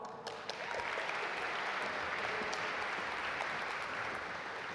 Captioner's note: audience applaud